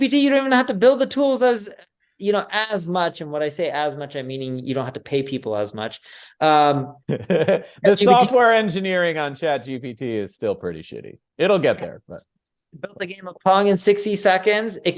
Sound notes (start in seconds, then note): 7.1 interviewer laughs